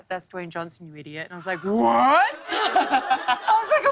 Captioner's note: laughter